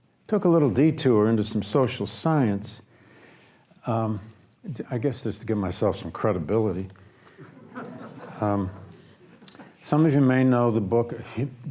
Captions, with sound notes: I took a little detour into some social science, I guess, just to give myself some credibility. (audience laughs) Some of you may know the book,